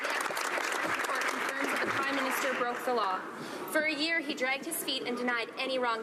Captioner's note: some Applause